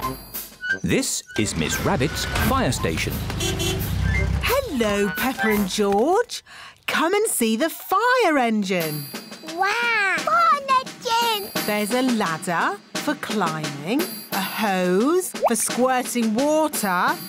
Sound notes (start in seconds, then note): 3.2 horn honks